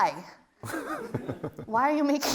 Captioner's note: laughs